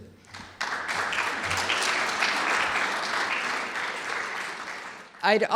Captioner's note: clapping